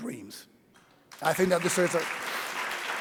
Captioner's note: audience applauding